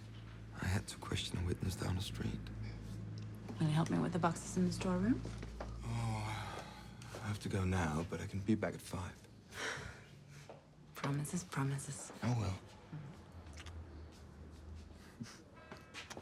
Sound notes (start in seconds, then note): 9.5 sighs; 15.1 chuckles